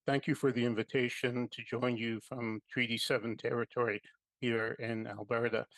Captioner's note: speaking French